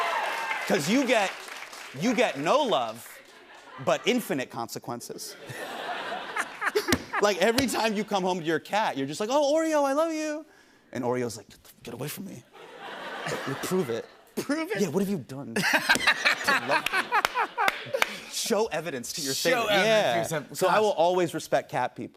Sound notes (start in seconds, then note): 0.0 cheers and applause; 15.5 laughter